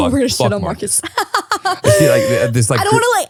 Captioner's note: laughing